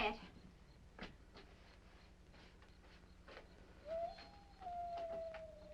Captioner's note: insects chirping; wolves howling